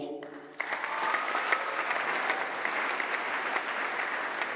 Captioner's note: applause